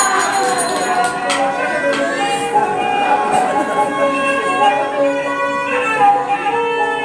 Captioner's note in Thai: ปรบมือ